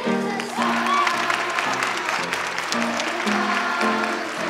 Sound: audience applauding

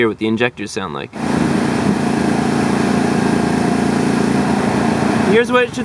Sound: engine Running

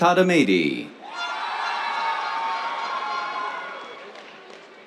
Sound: cheers, applause

